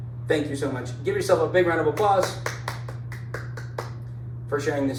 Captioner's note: clapping